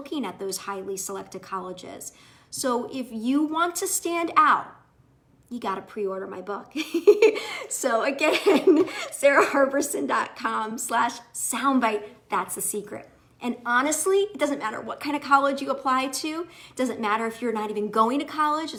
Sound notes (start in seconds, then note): 6.8 giggles